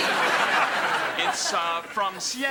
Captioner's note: audience laughing